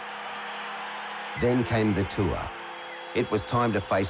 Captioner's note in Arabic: صراخ الجمهور